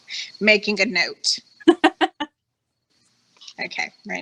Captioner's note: laughing